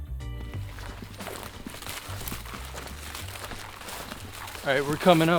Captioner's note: grass crunching